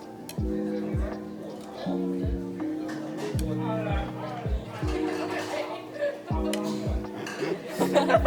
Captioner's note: collective laughter